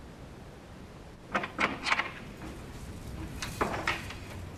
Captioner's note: door opens